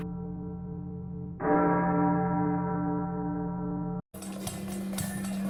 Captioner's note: bell tolls